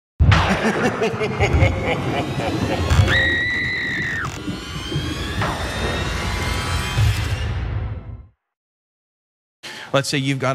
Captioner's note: laugh